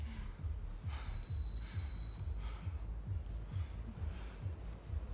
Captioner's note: Dimitri breathing heavily